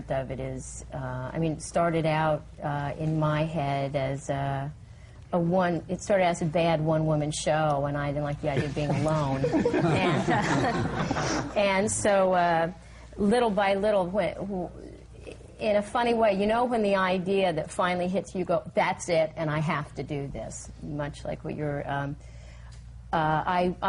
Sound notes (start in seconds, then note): 11.9 laughter